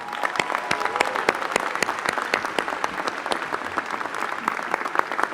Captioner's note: applause